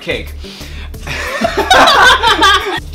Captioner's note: laugh